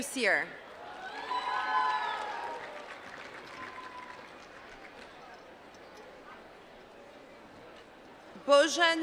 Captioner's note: applause